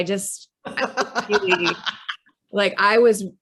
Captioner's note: laughs